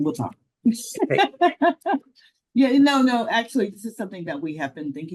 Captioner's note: laughs